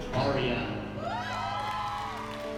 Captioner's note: applause and cheering